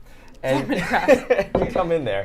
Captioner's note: laughs